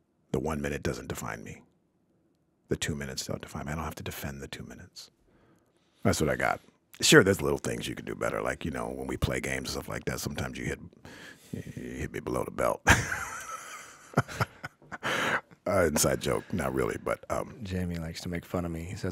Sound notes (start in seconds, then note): 12.8 laughing